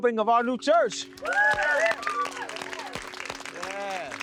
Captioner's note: group cheering